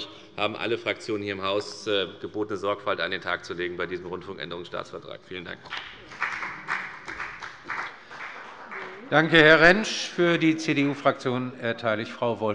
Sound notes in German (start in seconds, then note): 7.7 Beifall bei der FDP